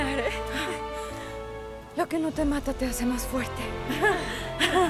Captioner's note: Jadeando; Las tres ríen